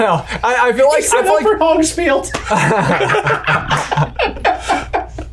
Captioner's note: laughing